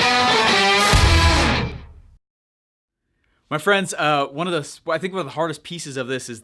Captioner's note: none